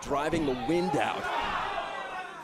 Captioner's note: crowd cheering